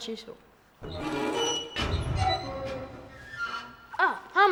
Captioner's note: door squeaking